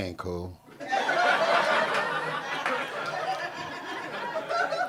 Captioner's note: audience cackling